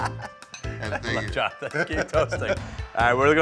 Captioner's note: both laugh; laughing